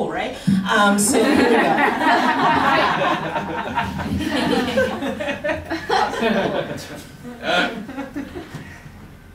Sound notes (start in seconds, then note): 1.6 rich and dispersed laughter